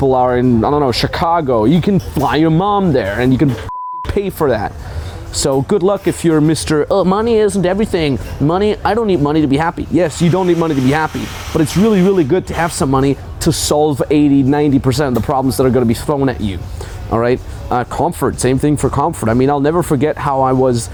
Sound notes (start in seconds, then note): 4.0 beeping